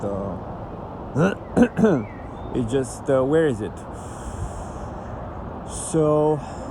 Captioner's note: clears throat